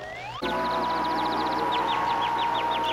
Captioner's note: gong reverberating, birds chirping